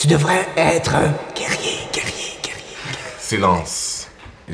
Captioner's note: echo